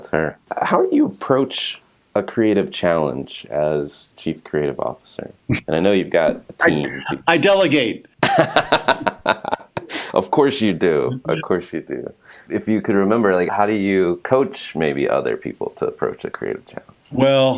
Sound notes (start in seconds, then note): 8.2 laughs